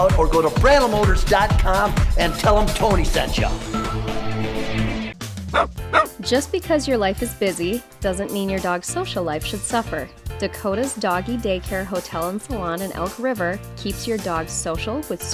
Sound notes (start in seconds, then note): 4.2 upbeat music; 5.9 dog barking